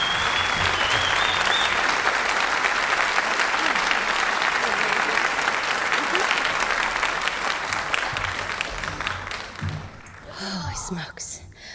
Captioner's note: applause